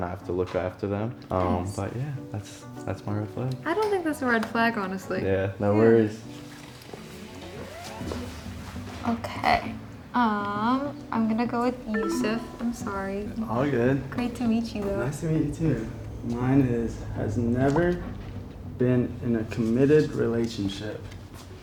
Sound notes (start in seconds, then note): none